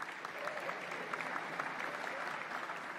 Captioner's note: applause